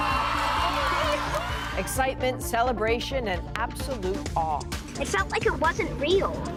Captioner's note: cheers and Applause